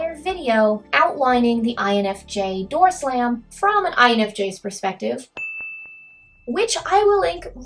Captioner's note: ding